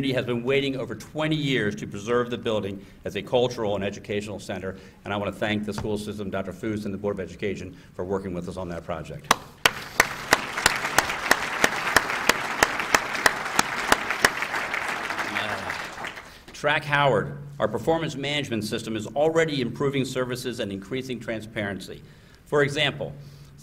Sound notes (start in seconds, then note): 9.3 applause